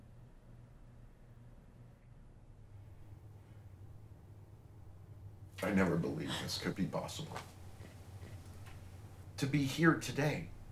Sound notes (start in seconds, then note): none